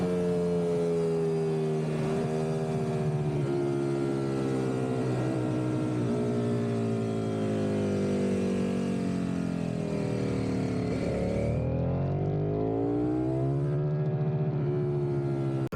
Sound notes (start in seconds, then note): 3.8 engine roaring